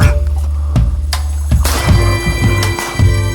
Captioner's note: gunshot